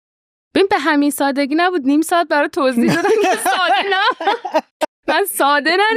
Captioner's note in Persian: خنده